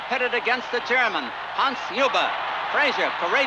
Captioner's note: crowd cheering continues